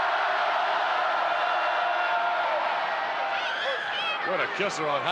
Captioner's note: crowd chants "Hooo"